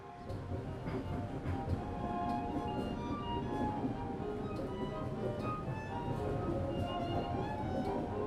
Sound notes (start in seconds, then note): 0.0 train rumbling; 1.0 classical music